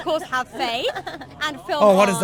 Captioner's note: forced laugh